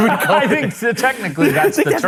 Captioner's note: laughing